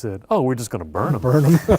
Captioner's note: laughter